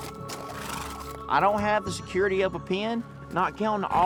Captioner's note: horse blusters